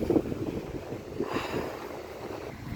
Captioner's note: sigh